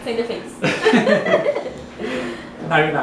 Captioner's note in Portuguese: Risadas